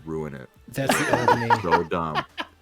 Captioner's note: laughs